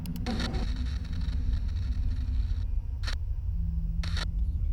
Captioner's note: static crackling